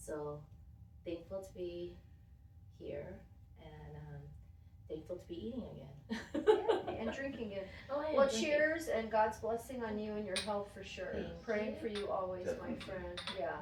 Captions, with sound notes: So, thankful to be here, and thankful to be eating again. (laughing) And drinking again. Well, cheers and God's blessing on you and your health for sure. Praying for you always, my friend.